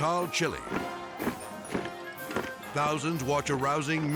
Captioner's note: military music; feet marching